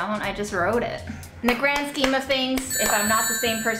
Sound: phone rings

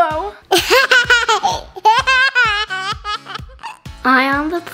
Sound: laughs loudly

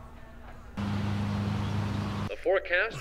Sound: light traffic

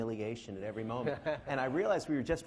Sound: laughing

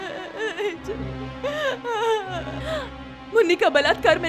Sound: crying

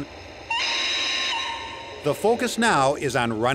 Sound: whistle blows

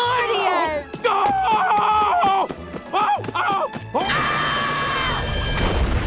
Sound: screaming

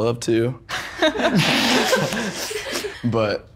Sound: Luna laughs

